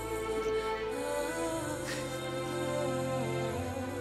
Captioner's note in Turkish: Ağlama sesi